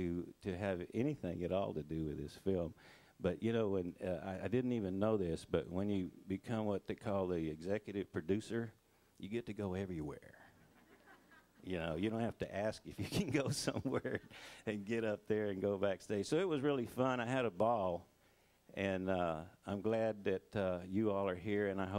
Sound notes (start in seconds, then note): 10.5 crowd laughing